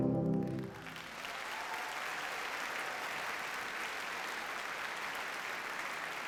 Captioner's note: audience cheers and applauds